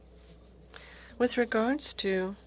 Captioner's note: speaking French